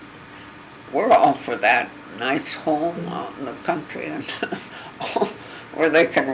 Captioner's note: laugh